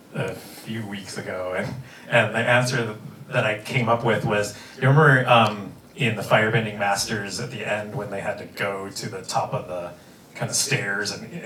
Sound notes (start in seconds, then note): none